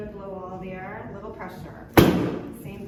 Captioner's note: table thump